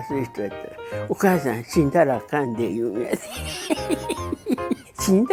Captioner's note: laughs